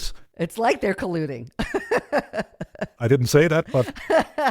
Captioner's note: laughs